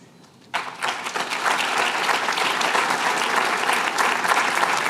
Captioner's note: applause